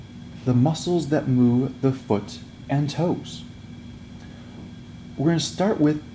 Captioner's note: voiceover